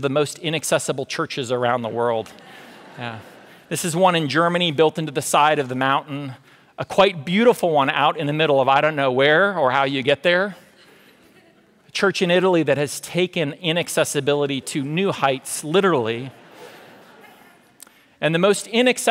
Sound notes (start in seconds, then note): 14.5 audience laughter